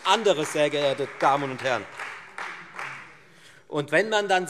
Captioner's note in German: Beifall Freie Demokraten